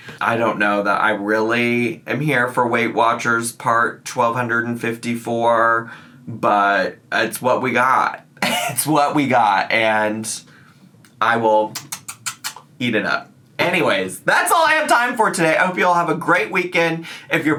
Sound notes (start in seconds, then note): 11.7 lips smacking